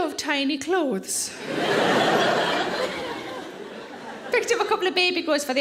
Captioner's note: audience laughs